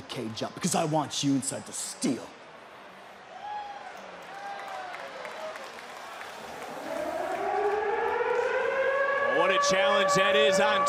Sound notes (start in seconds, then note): 5.2 crowd cheers; 6.3 siren